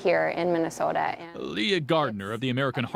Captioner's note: voiceover